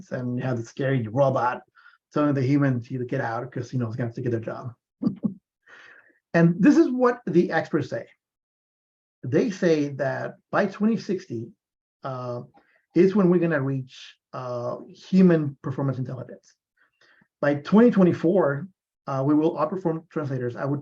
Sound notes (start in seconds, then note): 5.0 laughs